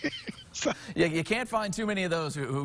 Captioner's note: laughing